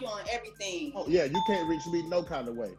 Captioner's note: bell chiming